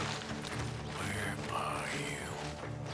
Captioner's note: murmurs